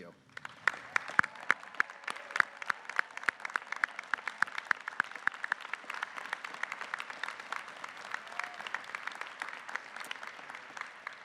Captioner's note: applause